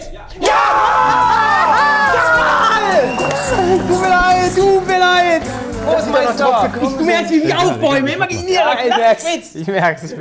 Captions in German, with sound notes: Ja! (Jubel) Tut mir leid, tut mir leid! Ich bin nicht daurfgekommen. Du merkst, wie ich mich aufbäume. - Ich merk's.